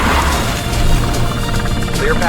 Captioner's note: rescue helicopter approaching